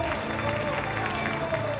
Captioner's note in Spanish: aplausos